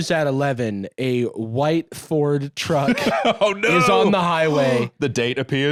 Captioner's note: laughing